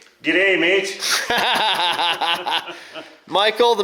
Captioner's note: laughing